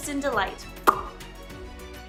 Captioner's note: smacks lips